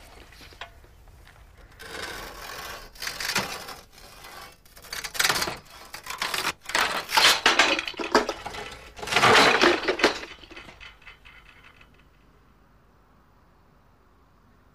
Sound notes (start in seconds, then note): 1.6 sawing noise; 9.1 clunk